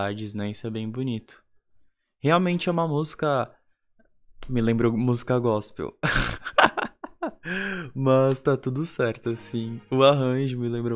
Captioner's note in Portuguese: risos